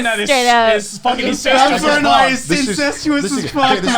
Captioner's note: crowd mumbling drains speech